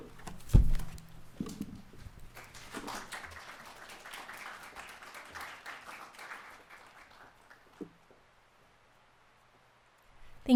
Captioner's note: applause